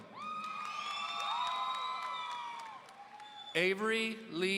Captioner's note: audience cheering